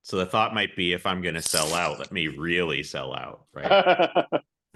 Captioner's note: both laugh